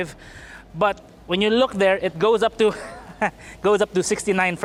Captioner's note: laughs